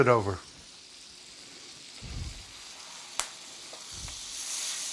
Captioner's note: fish sizzling